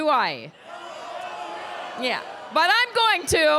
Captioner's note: crowd cheers